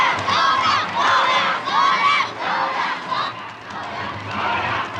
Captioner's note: cheers